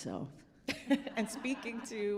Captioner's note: laughing